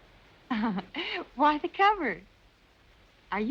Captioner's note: giggles